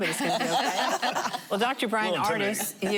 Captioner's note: laughing